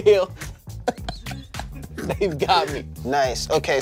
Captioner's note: everyone laughs